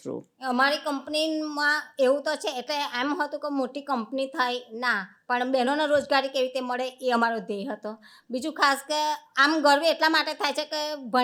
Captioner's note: speaking gujarati